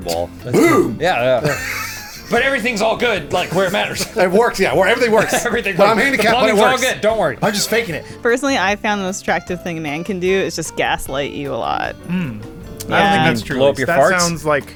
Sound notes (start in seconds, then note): 1.0 laughs; 5.1 laughs